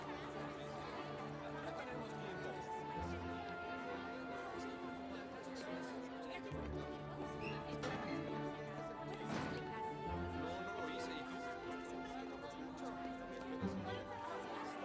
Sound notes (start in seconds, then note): 7.6 chattering